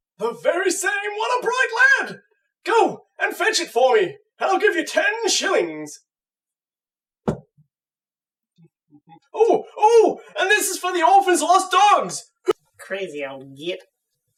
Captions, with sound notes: The very same, what a bright lad! Go and fetch it for me! And I'll give you ten shillings! [Thud] Oh! Oh! And this is for the Orphan's Lost Dogs! Crazy old git...